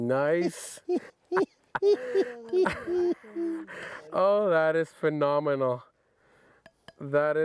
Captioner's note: chuckles